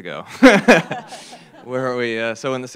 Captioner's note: laughter